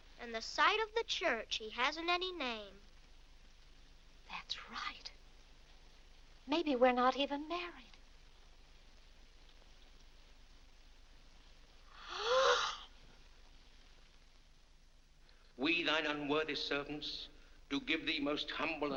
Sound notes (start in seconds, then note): 11.9 gasps